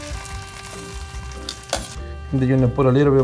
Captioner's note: food sizzling